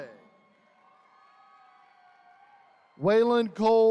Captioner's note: attendees cheering